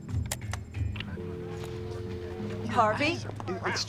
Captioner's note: dial tone drones